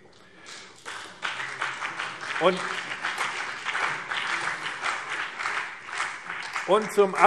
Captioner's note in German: Beifall BÜNDNIS 90/DIE GRÜNEN und CDU